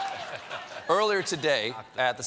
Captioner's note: laughter